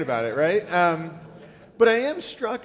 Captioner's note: audience laughing